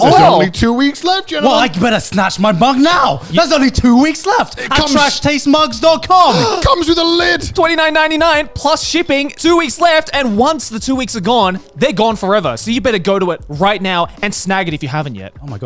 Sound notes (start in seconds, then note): 6.2 gasps